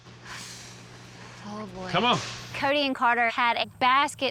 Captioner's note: sighs